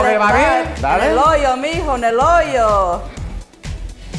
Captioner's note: speaks Spanish